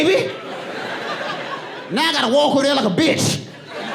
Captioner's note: audience laughing